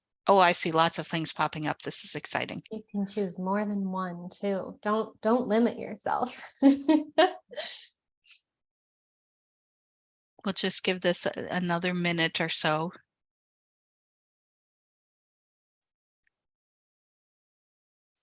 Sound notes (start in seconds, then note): 6.5 laughs